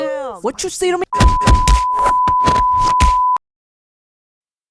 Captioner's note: just the casual sound of people probs being beaten to death